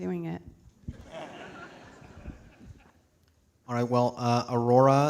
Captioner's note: audience laughing